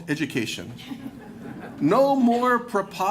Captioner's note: laughter